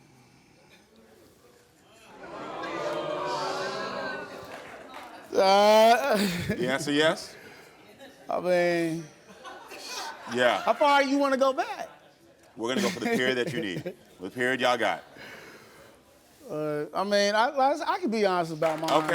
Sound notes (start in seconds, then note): 2.1 audience groans; 5.3 groans; 9.2 audience laughs